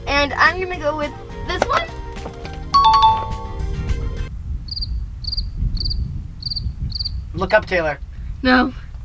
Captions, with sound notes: and I'm gonna go with this one? (button clacking) (bell dinging) (crickets chirping) - Look up, Taylor. - No.